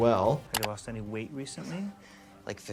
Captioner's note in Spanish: clic del mouse